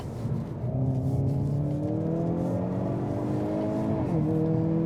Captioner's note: car engine revving